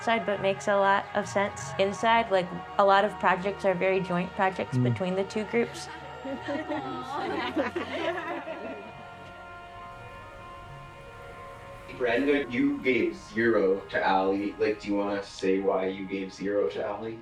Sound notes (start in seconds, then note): 7.5 laughing